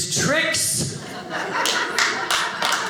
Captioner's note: audience laughing